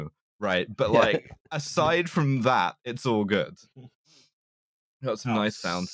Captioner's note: laughs